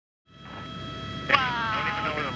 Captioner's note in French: voix sortant du casque d’écoute de l’hélicoptère